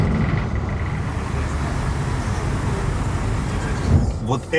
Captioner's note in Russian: Шум моря